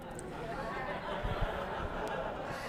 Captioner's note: laughter